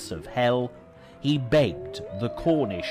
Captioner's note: dogs howling